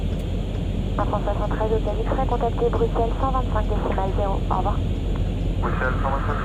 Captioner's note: radio chatter